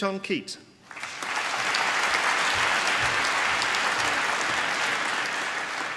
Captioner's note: applause